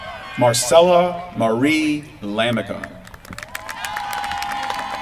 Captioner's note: applause